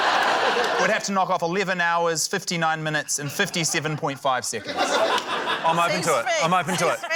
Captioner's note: laughter